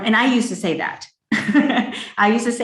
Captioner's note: laughs